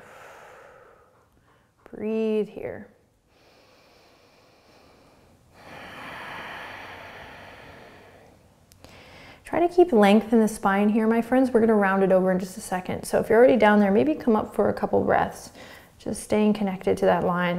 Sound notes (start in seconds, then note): 0.0 exhaling; 3.3 breathing